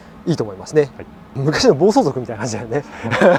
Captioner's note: laughs